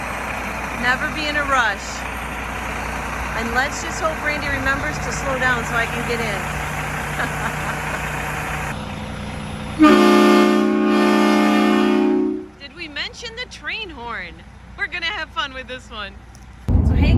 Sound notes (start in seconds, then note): 8.1 laughing; 9.7 bus hooting